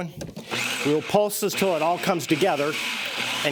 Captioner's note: food processor whirs